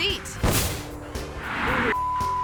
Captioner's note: firework pops; upbeat music continues; beep